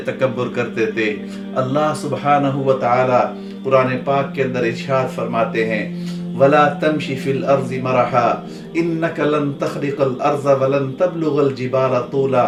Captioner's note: Arabic